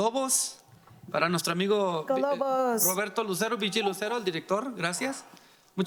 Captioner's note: speaking in foreign language